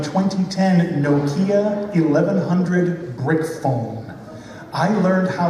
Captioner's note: laughter